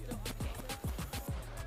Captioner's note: students chattering